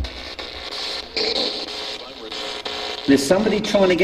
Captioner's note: static buzzing